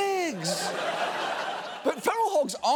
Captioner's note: studio audience laughing